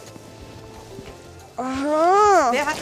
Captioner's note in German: Genervter Laut